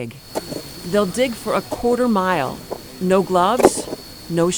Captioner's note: nats digging